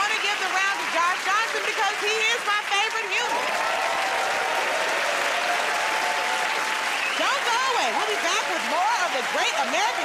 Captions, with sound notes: but I want to give the round to Josh Johnson because he is my favorite human. [ Cheering and applause ] Don't go away. We'll be back with more